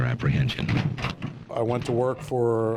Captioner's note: crowbar rattling